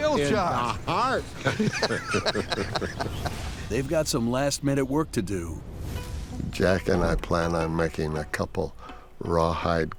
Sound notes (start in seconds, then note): 4.6 laughter